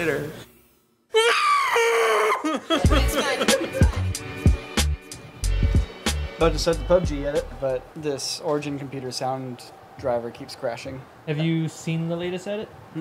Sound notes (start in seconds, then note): 1.1 angry scream